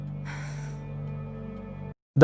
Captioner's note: sigh